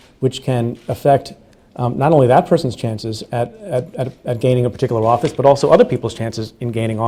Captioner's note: stutters